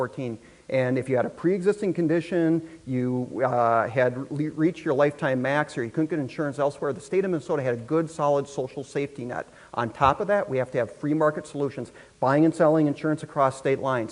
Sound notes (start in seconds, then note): none